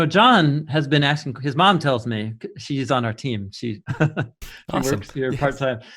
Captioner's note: laughing